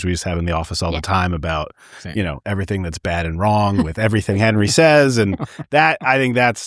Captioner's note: laughter